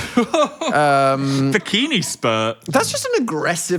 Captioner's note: laughing